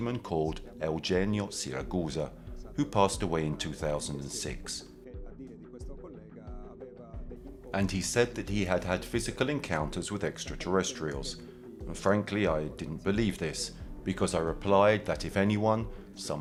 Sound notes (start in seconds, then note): 5.4 gentle music continues; 5.4 speaking in foreign language